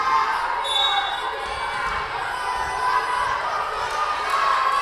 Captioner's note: whistle blowing